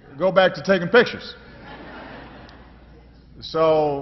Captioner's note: laughter